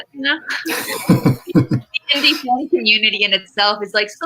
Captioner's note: laughs